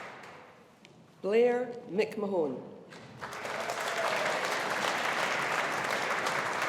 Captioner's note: audience applauding